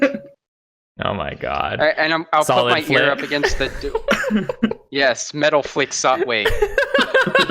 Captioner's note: laughter